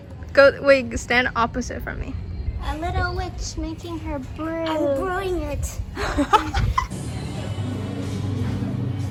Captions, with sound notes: go- wait, g-stand opposite from me a little witch making her brew I'm brewing it! [laugh]